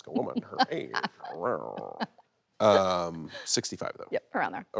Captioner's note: Jon groans